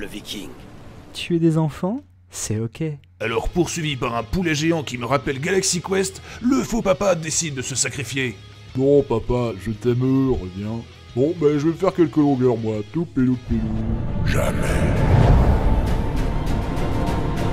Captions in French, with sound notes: Tuer des enfants, c'est Ok... Alors poursuivi par un poulet géant qui me rappelle Galaxy Quest, le faux papa décide de se sacrifier. Non papa, je t'aime, reviens. Bon ben, je vais faire quelques longueurs, moi [Chantonne] Jamais